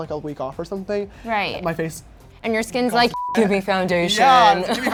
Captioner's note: beep